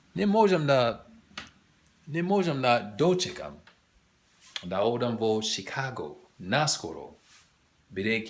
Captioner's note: macedonian